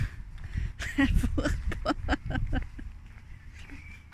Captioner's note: laughter